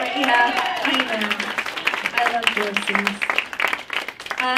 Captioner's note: cheers, applause